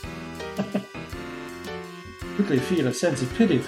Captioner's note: chuckles